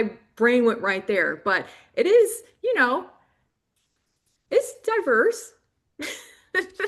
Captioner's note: laughing